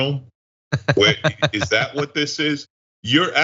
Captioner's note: laugh